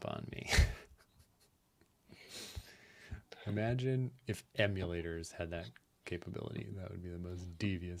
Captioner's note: laughs